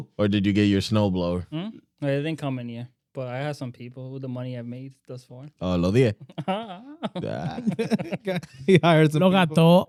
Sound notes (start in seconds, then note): 6.2 laughing; 7.3 speaking In Foreign Language; 8.0 laughing; 8.0 speaking In Foreign Language